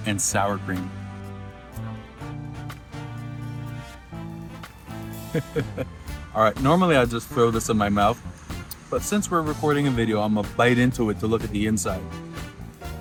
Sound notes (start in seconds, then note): 2.9 upbeat music; 5.1 laughing